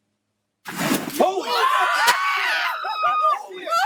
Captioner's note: sound of metal bed sliding; people screaming